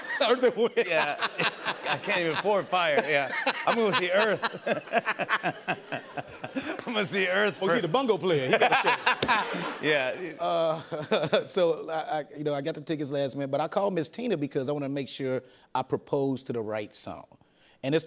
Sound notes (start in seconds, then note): 1.0 laughter; 4.5 laughter; 8.3 laughter